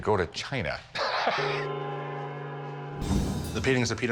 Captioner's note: laughs